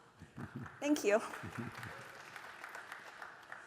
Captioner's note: applause